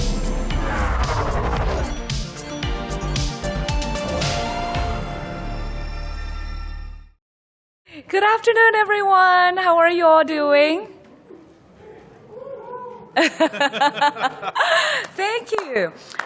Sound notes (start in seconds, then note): 13.1 laughter